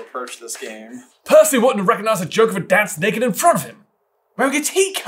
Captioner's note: accented